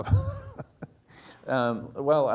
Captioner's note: laughing